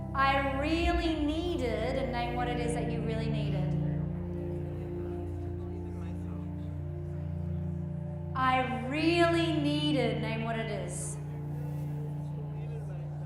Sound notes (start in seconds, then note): 4.0 group muttering